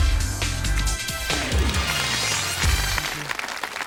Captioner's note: audience applauding